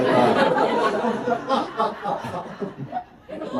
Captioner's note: laughter